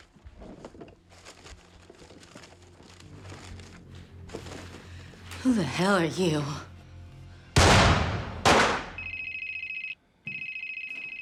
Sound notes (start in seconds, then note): 7.5 gunshots; 9.0 cell phone ringing